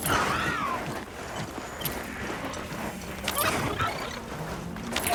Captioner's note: mount screeching